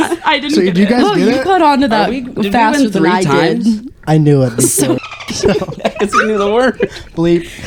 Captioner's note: laughing